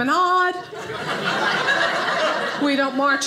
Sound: audience laughing

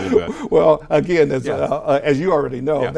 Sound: laughs

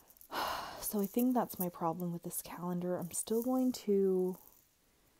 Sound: sigh

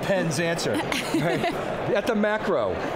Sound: laughing

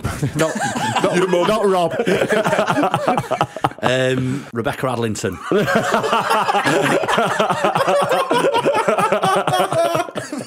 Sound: laughter

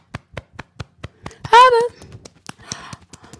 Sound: beating Chest

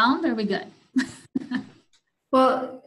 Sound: laughs

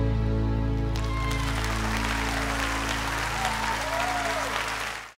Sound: cheers and applause

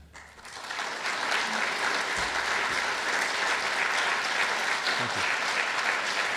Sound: clapping

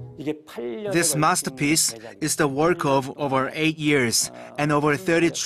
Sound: korean

